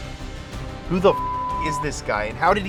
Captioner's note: beep